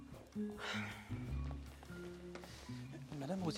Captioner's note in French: soupir